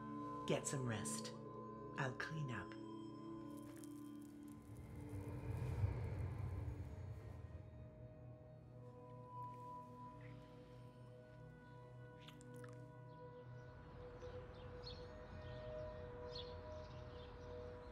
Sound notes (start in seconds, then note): 14.3 birdsong